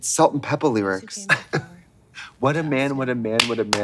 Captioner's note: Blonde Women tee-heeing